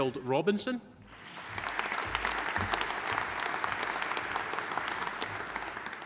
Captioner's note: audience applauding